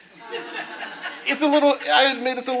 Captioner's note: audience laughing